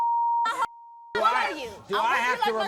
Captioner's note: yelling